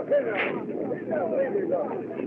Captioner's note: whip Cracks